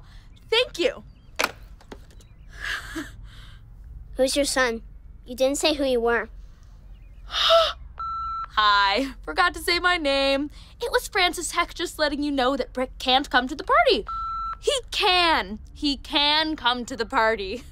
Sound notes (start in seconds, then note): 3.2 sighs in relief; 6.8 gasps; 8.0 line beeps; 14.0 line beeps